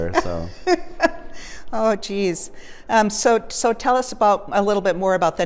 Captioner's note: laughs